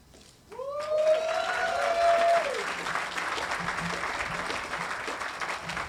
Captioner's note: audience applauding and cheering